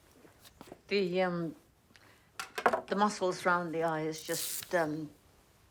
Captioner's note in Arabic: none